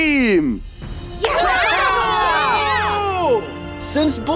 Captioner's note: Red Team cheering